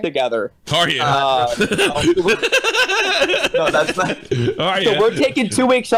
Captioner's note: laughs